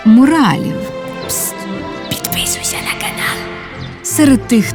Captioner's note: whisper